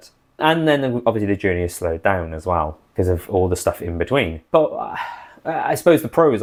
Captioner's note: sigh